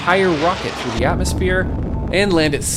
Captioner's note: rocket humming